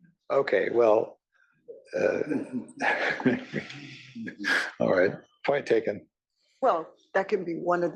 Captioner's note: laugh